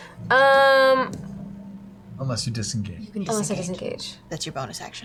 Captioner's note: none